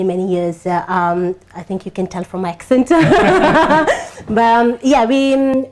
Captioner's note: laughs